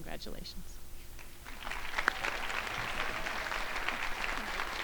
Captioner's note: crowd applauding